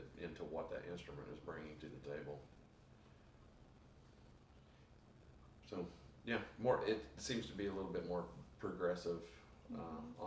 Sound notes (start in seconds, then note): none